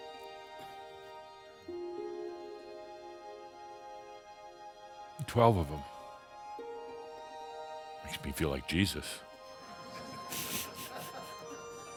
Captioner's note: a few chuckles